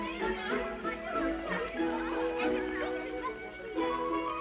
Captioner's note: light playful music; girls chattering